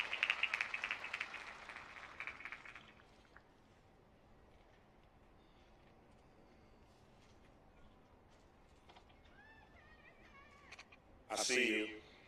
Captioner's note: applause